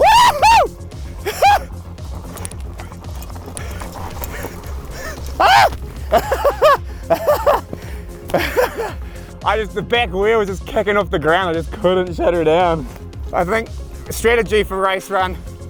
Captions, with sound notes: (gleefully hollering) (yelling with surprise) (laughing) The back wheel was just kicking off the ground. I just couldn't shut her down. I think the strategy for race run